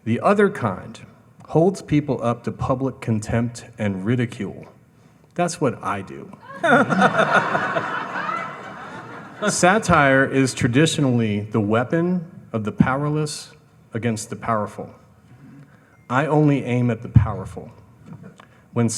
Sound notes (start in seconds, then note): 6.4 all laughing